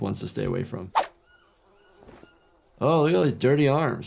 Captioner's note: animals calling